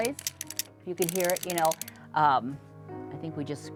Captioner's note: sound of clicking